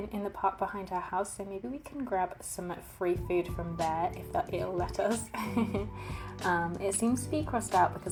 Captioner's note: laughs